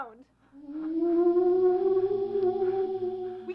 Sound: the moan occurs again, louder

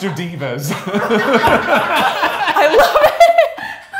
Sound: both laugh

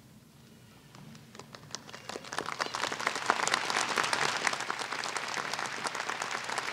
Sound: applause

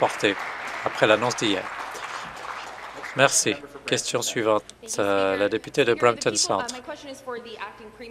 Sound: applause

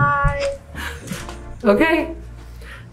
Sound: laughing

